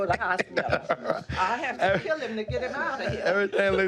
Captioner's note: laughter